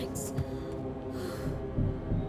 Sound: sighs

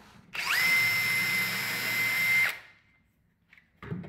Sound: drill whirring

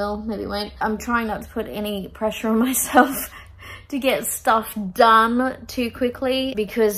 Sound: laughing

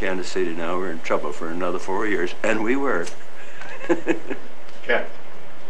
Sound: laughter

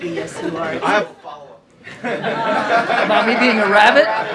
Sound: laughter

